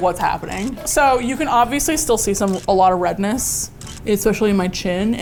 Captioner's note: shutter click